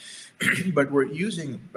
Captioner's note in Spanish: se aclara la garganta